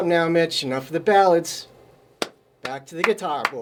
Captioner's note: hands clap